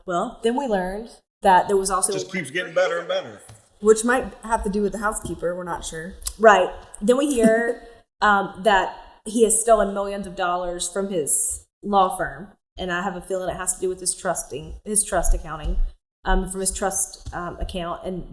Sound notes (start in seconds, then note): 7.2 laughs